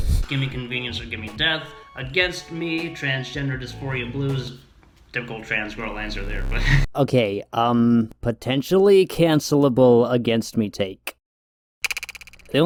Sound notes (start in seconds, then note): 5.4 chuckles; 11.0 echoed mouth click